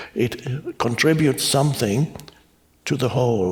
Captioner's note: none